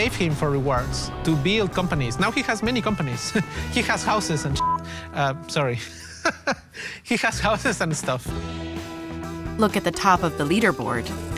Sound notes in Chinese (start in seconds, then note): 3.3 笑聲; 4.5 嗶聲; 5.8 笑聲